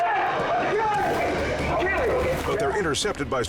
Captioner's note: men chanting